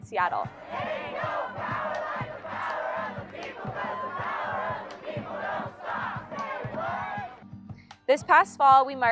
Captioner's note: chanting